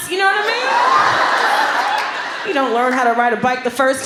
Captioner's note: laughter